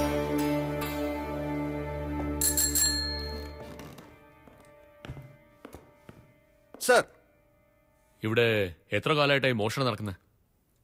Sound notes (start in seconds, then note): 2.4 Call bell dings